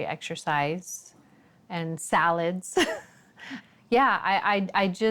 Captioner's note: laughs